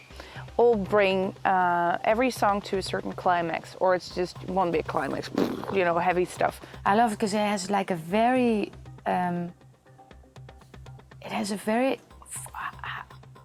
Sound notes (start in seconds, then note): 5.1 makes explosion noise